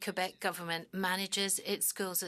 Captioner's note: speaking French